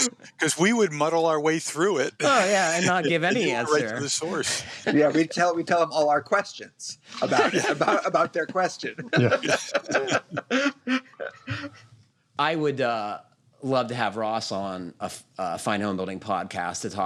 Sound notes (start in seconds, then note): 9.1 laughter